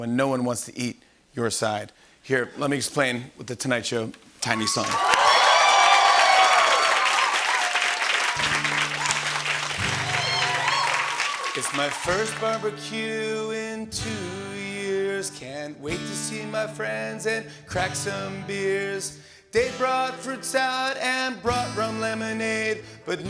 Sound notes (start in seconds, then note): 4.5 cheering and applause